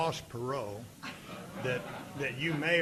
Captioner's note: audience laughing